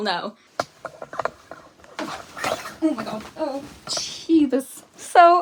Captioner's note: clattering